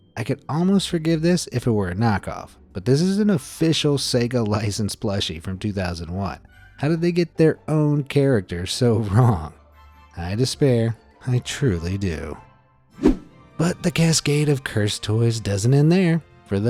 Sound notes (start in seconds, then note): 13.0 image whooshing